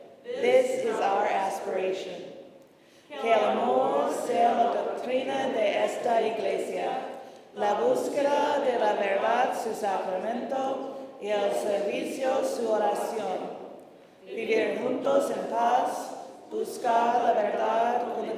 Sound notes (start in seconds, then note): 3.2 congregation speaking in foreign language